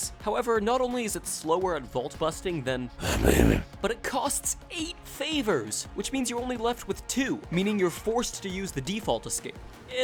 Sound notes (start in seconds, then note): 2.9 demonic voice: i'm batman